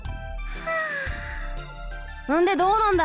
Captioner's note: catching breath